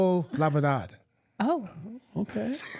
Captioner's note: speaking in Spanish